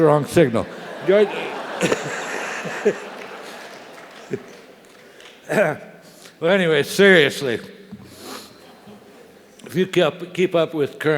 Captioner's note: laugh; cough